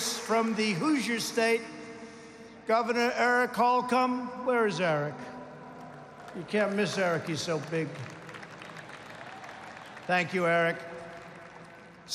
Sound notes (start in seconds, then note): 8.4 applause